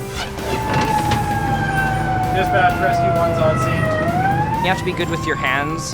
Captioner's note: siren